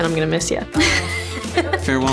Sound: laugh

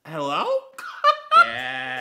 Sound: gay giggle

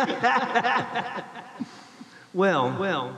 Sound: laughs

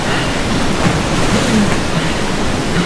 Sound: gasping, splashing

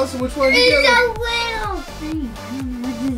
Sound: shrieks

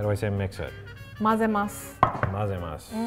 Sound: speaks in foreign language; speaks in foreign language

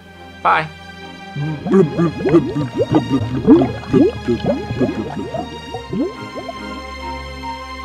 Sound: glugging noises

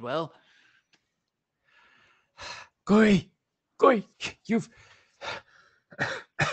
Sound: out of breath

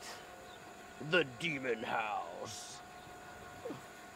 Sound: as horror narrator

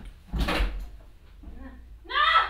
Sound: door slams

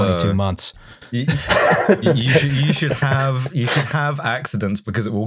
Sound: laughter

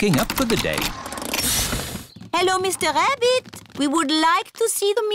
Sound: engine stops

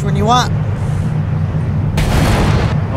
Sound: air whooshing

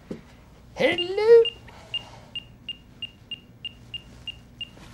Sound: beeping starts rapidly

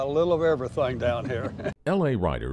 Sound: people laughing

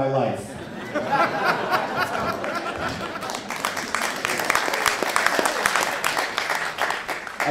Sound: laughter and applause

